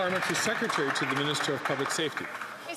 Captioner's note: some Applause